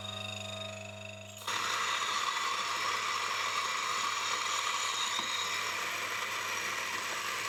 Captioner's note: beans grinding; grinder whirring